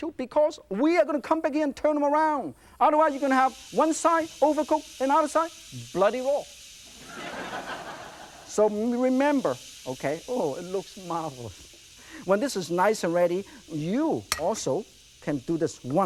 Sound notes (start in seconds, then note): 6.9 audience laughs